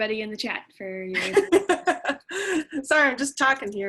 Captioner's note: laugh